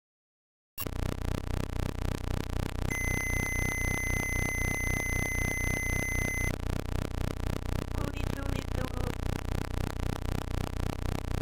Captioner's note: rumbling and beeps